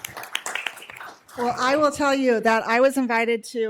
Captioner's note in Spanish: aplausos